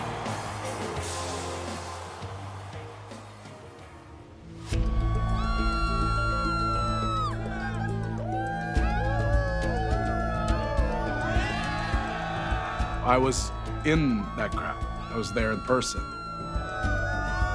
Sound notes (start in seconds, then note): 0.1 dramatic music; 5.0 crowd cheering; 5.0 tense music